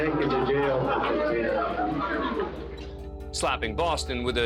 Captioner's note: indistinct chatter